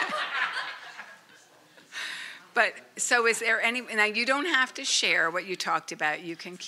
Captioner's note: laughter